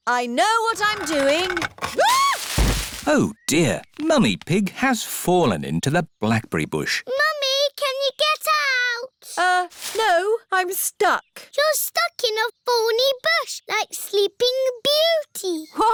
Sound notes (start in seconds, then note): 0.7 thuds; 2.2 screams